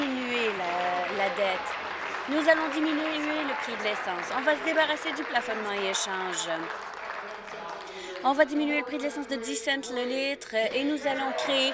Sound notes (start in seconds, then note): 3.9 applause